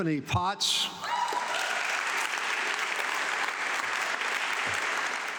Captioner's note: audience clapping